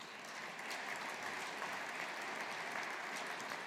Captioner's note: audience applauding